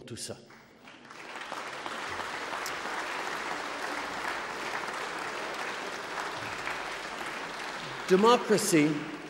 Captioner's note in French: Applaudissements